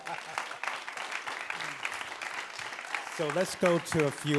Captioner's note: laughs; audience claps